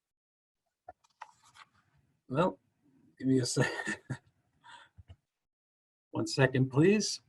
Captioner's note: chuckles